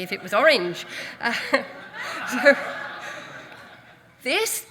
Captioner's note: audience laughs